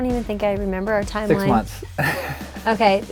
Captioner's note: laughs